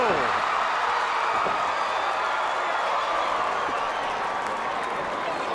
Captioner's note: audience cheering